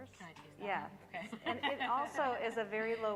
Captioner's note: laughing